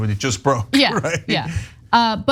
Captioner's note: laugh